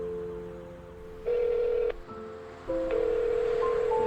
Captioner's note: phone ringing